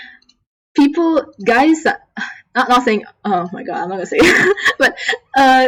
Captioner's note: laughs